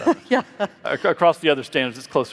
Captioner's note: laughs